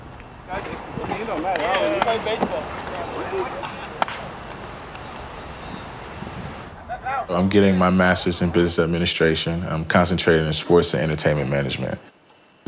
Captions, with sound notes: (players chatter) That's out. I'm getting my master's in business administration. I'm concentrating in sports and entertainment management.